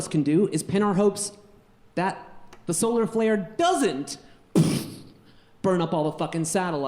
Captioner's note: puffs